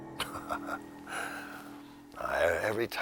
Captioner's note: chuckling